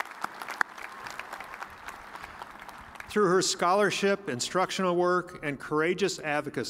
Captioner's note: applause